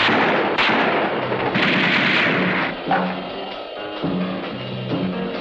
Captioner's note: gunfire continues